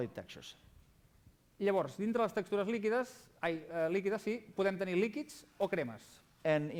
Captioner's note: non-english speech